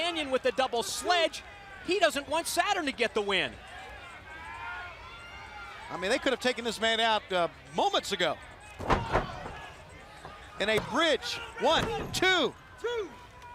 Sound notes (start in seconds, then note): 8.0 crowd chatter